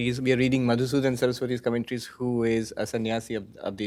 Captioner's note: hindi